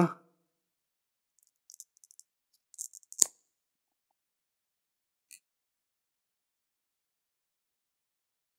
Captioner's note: the sound of pruning shears prying at the pencil. crunch and clicking sound